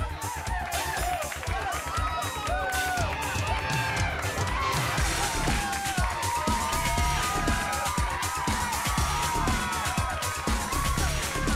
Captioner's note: crowd cheering